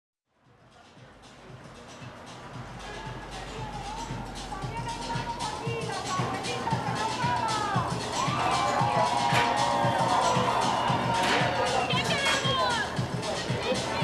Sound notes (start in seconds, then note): 0.1 dance music playing; 2.8 woman speaking spanish; 6.5 crowd cheering; 11.5 woman speaking spanish